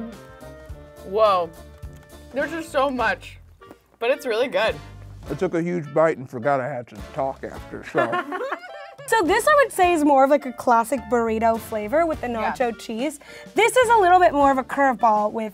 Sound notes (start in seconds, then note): 7.9 girls laughing